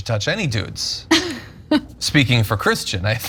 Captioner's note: laugh